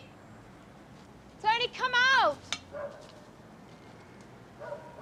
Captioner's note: dog barks